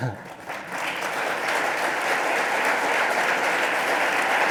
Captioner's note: applause